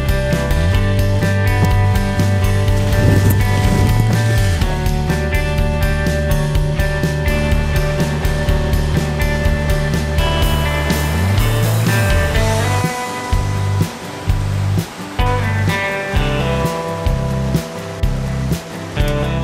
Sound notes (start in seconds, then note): 13.1 water rushing